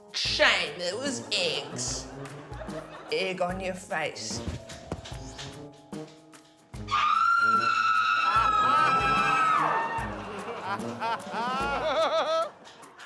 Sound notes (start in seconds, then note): 6.8 screams; 10.9 laughter